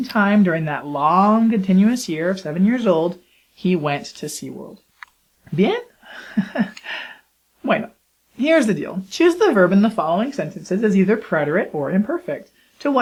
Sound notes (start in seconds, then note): 6.2 laughs nervously